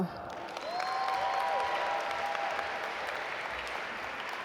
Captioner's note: audience applaud